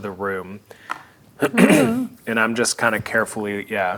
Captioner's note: clears throat